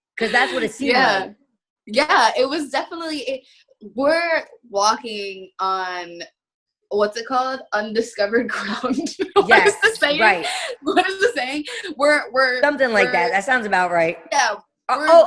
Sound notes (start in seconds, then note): 8.6 giggling